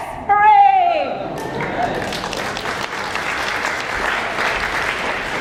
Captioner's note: audience applauding